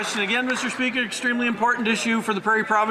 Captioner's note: some Applause